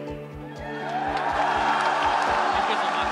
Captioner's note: cheers